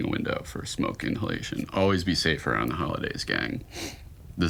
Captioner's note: sniffs